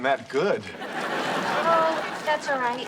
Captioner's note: audience laughs